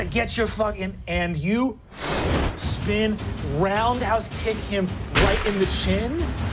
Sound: whooshing

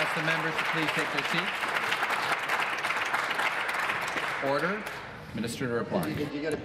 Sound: applause

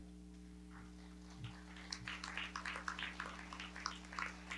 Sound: audience clapping

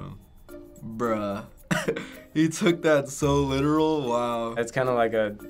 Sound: chuckling

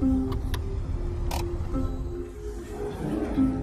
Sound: engine stops

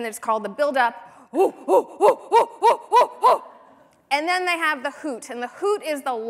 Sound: chimp noises

